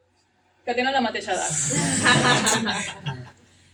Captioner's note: laughter